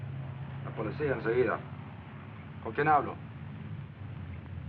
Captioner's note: in Spanish